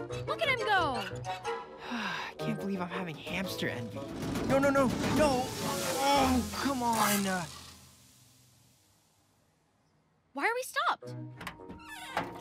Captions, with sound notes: Look at him go. (SIGHS) Can't believe I'm having hamster envy. No, no, no, no. (ENGINE SPUTTERING) Oh, come on. (ENGINE HISSING) Why are we stopped? (HINGES SQUEAKING)